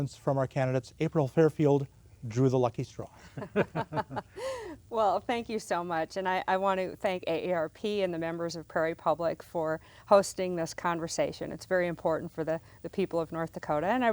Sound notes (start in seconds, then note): 3.2 laughter